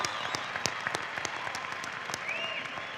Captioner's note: cheering and applause